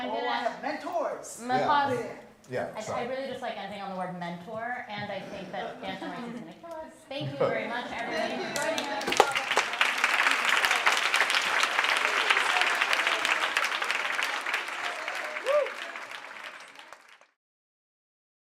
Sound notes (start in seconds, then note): 6.2 audience Laughter; 9.1 applause